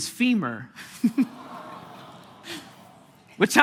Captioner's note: congregation gasping